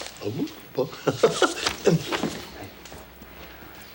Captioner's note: John chuckles; John laughs